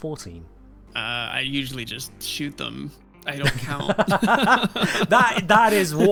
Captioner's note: both laugh